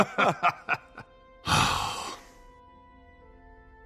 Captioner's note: laughing; sigh